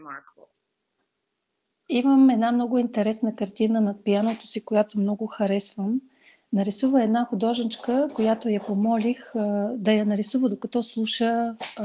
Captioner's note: foreign Language followed by English Interpreter